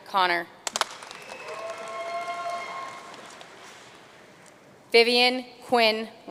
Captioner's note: audience cheering and applauding